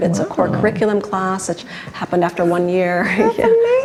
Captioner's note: laughs